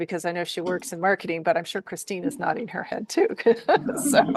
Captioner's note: chuckles